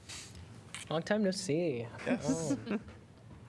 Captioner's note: laughter